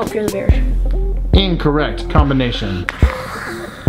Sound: male Voice

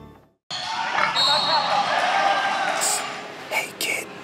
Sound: people cheering; whistle blowing

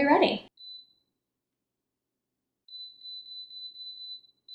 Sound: machine beeping

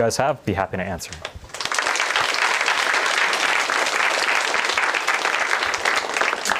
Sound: applause

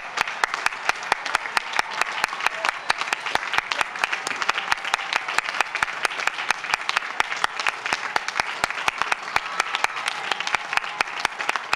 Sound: applause and cheering

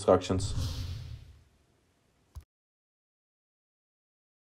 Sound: swoosh sound

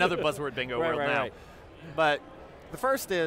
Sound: laughs

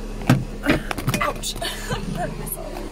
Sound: laughs

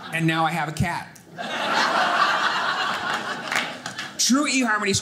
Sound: audience laughing

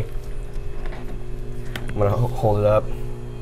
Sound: machine whirring continues

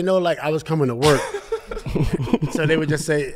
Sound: laughing

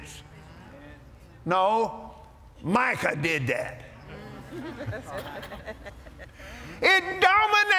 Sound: laughter

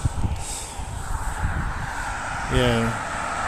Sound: sighs

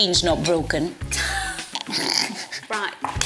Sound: both laughing

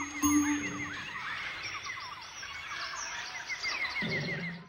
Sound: monkeys chattering; xylophone chiming; birds chirping

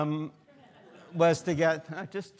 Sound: students laughing

